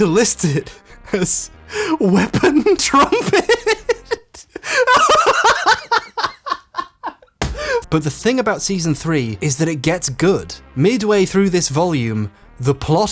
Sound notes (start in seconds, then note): 2.2 laughing; 5.7 cackling; 7.4 hand slaps table